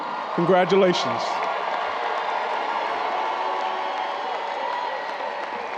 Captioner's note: audience cheering and applauding